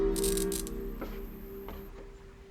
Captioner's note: light buzzing; footsteps tapping